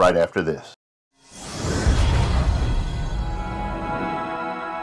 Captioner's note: swishing